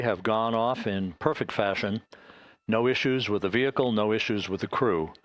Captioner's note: static